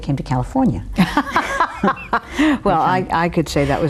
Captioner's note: laugh